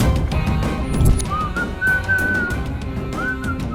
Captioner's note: whistling